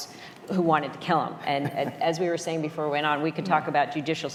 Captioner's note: laughter